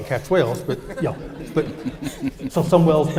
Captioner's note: laughing